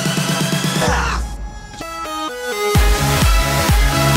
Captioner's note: groans